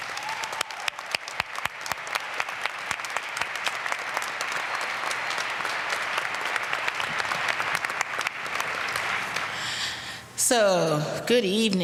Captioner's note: applause